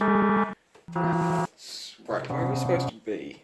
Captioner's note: alarm dies down